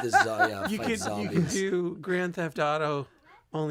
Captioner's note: laughter